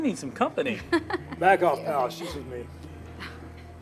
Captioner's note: laughs